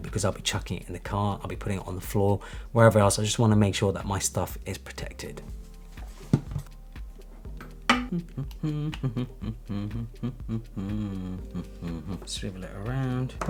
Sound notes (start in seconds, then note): 7.8 humming